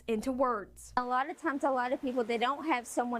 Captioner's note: nats of rain